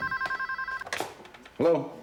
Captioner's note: phone rings